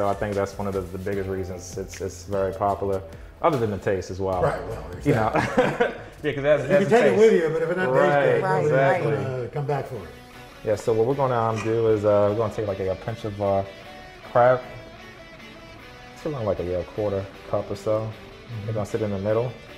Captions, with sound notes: I think that's one of the biggest reasons it's very popular other than the taste as well. - Right. Yeah. (laughs) You can take it with you, but if it doesn't taste good-- - Right! So what we're going to do is we're going to take a pinch of crab, a quarter cup or so it's going to sit in the middle.